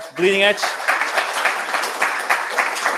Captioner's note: applause